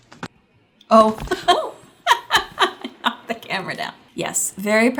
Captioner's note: giggles